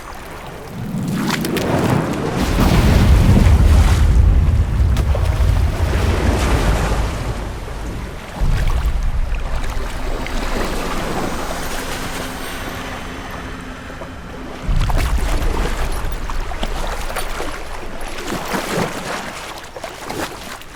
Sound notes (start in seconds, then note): 0.8 magical hum; 2.7 portal rumbles; 4.9 distant splash; 6.1 rumbling dies down; 14.7 water sloshing